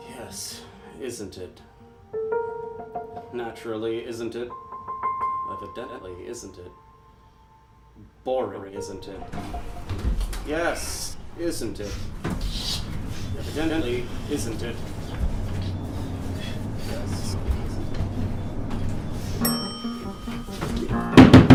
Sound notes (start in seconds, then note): 12.6 sound of elevator going up; 19.6 elevator ding; 21.1 knocking